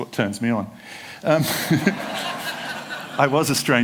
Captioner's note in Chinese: 笑聲